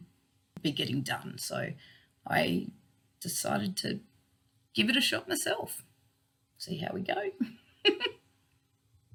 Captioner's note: laughs